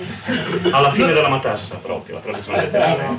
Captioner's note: laughter; Italian